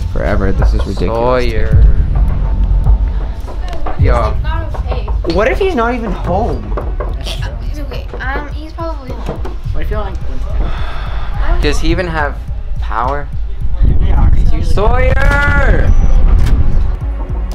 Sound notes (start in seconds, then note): 2.1 knocking; 7.3 door knocking; 15.8 tense music